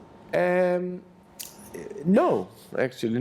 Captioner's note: none